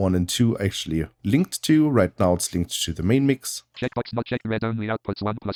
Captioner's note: automated voice